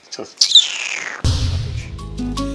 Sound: hiss

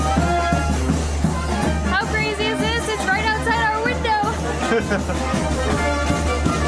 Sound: live music from the parade band; laughter; live music from the parade band

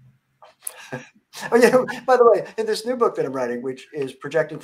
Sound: laughter

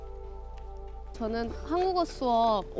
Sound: speaks in foreign language

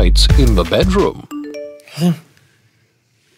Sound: phone chimes

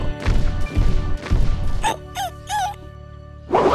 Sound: whimpering

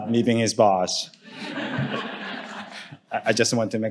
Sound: audience laughing

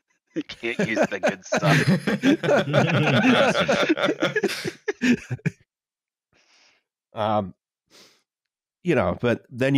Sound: laughter

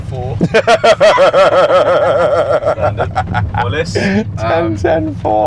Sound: laughing

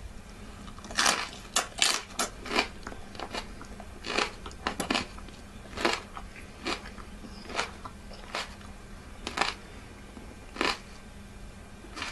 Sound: crunching

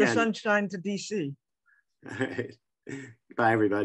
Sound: laughing

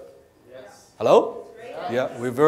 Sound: crowd

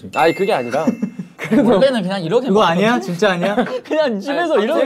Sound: haha

